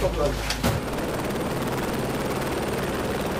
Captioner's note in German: Hubschrauberlärm